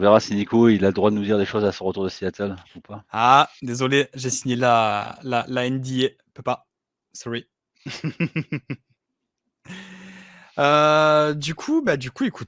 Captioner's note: laughs